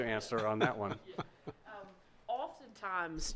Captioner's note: members laugh